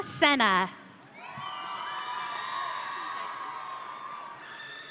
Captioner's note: audience cheering